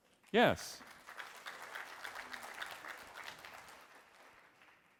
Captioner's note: audience clapping